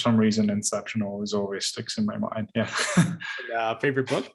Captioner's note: laughs